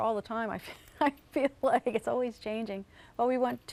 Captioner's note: laughs